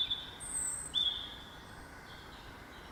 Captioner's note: birdsong